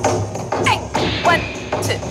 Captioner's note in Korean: 파워 넘치는 카운팅